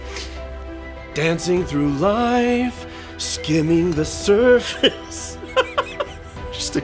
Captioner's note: laughs